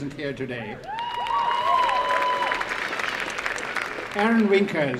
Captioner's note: applause